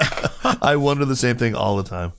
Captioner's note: laughter